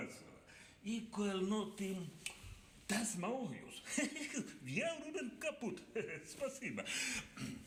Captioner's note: speaks Russian